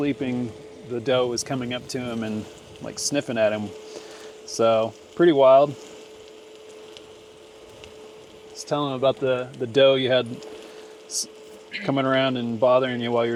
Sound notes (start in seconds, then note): 9.6 dough sizzling